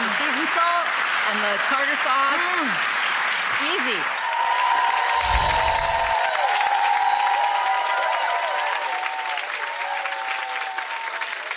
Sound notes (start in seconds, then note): 4.7 cheering, applauding